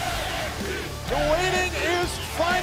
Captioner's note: fans chanting